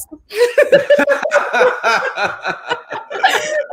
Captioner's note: everyone laughs